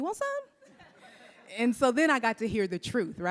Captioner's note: audience laughs